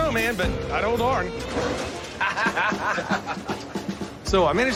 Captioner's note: both laugh